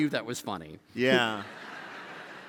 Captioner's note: laughter